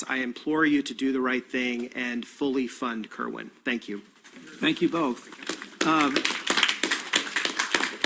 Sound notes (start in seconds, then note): 5.0 crowd applauding